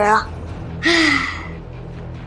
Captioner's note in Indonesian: Menghela napas